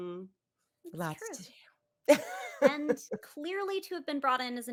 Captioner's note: laughs